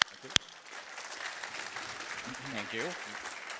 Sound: applause

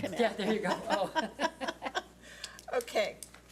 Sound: laughs

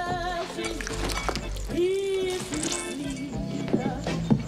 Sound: food squishing

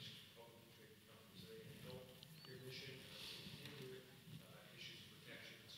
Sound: speaks faintly

